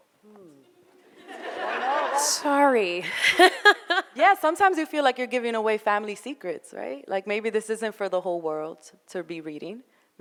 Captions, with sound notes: (audience laughing) Sorry. - Yeah, sometimes you feel like you're giving away family secrets, right? Like maybe this isn't for the whole world to be reading.